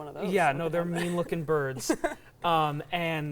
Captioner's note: laughing